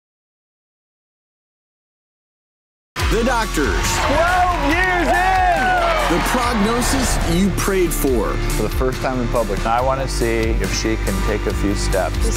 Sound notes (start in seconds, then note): 3.0 audience applauding